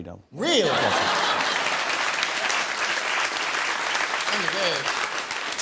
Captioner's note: laughter and applause